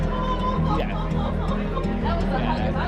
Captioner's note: laughs